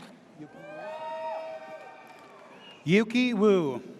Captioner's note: audience cheers